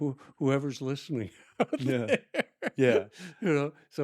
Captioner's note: laughing